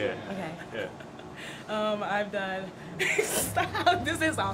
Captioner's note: laughter